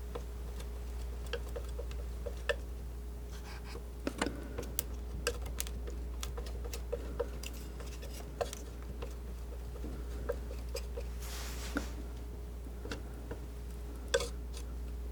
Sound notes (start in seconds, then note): 4.1 scratching